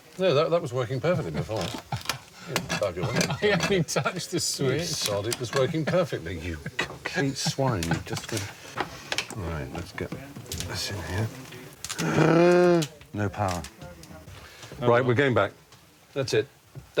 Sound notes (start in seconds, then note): 11.9 gasps